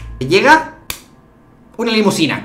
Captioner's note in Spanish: chasquido